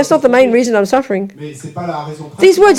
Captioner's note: audience member speaks in French